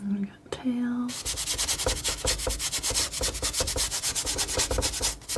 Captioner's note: scratching